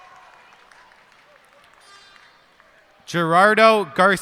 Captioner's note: cheers and applause